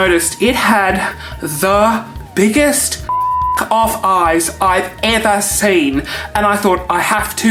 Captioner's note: beep